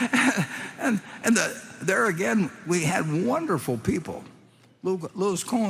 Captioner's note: laughs